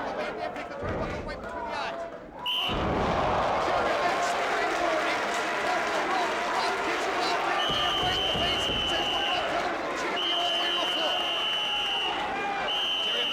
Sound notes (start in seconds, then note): 2.4 whistle blowing; 2.4 crowd groaning; 12.6 whistle blowing